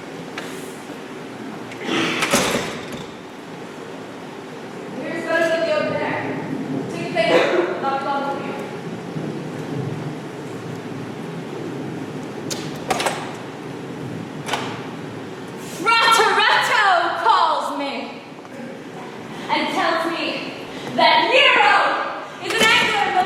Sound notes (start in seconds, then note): 2.1 door opens offscreen. Storm returns; 10.5 door opens offscreen